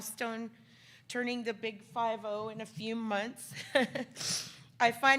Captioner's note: laughs